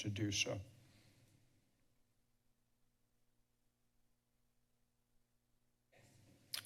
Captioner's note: silence